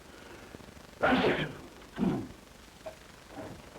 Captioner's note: sneeze